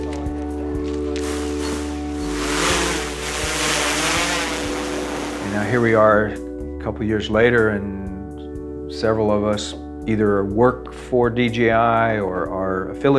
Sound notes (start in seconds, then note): 1.2 blades rotating